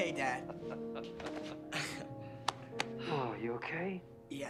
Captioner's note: happy chuckles